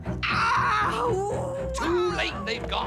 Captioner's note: screaming